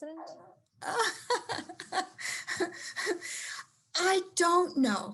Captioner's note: laughs